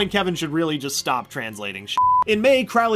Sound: beep

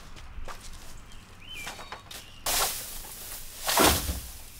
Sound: birds chirp

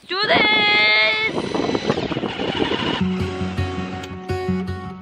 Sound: go kart engine whirring; acoustic guitar music

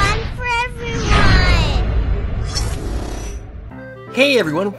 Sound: rocket sound

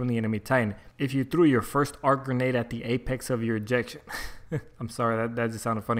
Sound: laugh

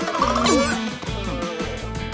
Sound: grunting

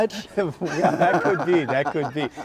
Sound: laughs

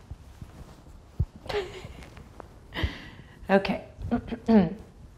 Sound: chuckles

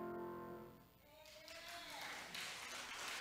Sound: audience applauding

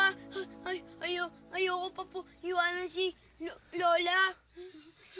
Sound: stammering

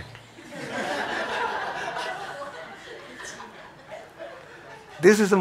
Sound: audience laughing

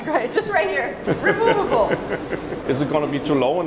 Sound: laughing

